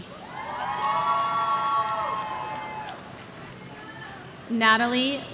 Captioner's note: audience cheering